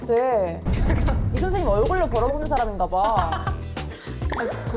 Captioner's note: shocking sound effect